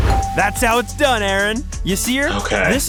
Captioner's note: bell ringing